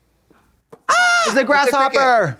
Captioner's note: Trixie squawks